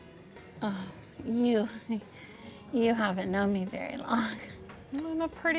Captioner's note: laughs